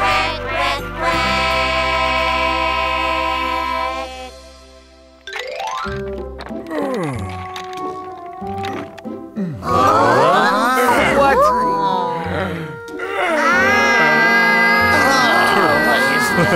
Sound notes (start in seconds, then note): 6.5 turtle grunts; 9.6 audience mumbles confusedly; 13.1 audience grumbles